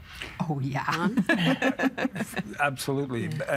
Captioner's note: all laughing